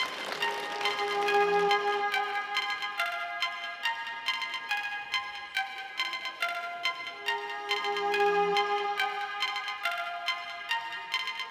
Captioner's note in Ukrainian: оплески